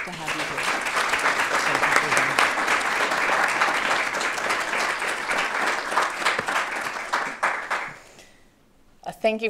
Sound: audience Applause

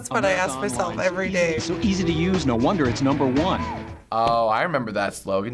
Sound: voice-over

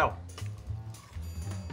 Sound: crunches

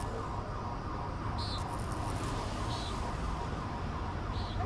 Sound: siren blaring; electrical crackling

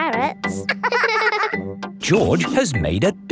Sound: both laughing

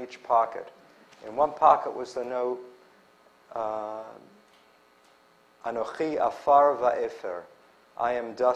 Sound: non-english

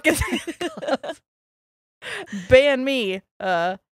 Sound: both laughing

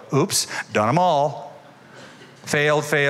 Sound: laughter

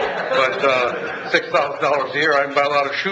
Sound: audience laughs

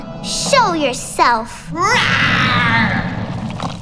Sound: roaring

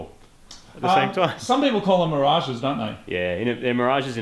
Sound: snickers

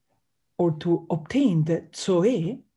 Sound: speaks in Greek

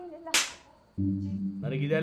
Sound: slaps her

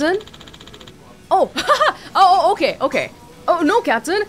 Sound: chuckles

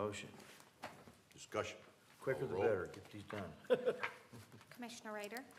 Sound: laughter

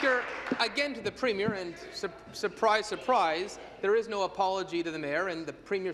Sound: applause

